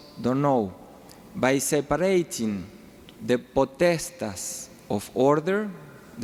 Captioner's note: speaking foreign language